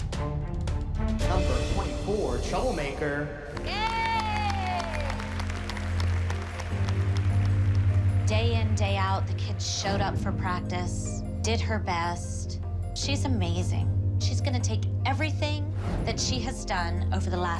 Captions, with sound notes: --number 24, "Troublemaker." Yay! [cheering, applause] Day in, day out, the kid showed up for practice, did her best. She's amazing. She's gonna take everything that she has done over the last six